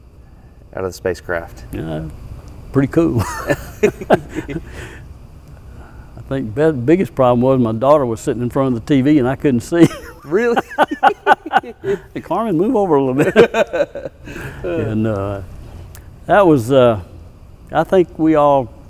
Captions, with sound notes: You know.....pretty cool. I think the biggest problem was my daughter was sitting in front of the TV and I couldn't see. [Big Laugh] Really!? Carmen move over a little bit. And that was uh... I think we all